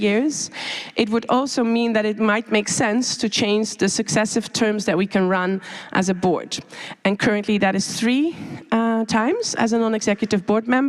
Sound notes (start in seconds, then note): none